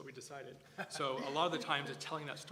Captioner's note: laugh